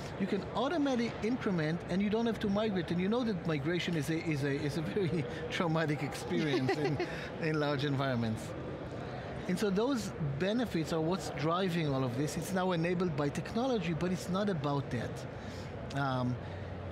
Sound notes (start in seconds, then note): 6.2 laughing